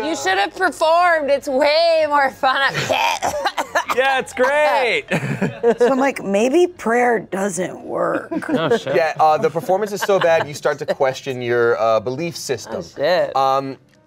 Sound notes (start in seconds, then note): 2.7 coughs